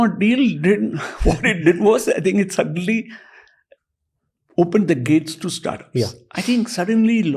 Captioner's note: chuckles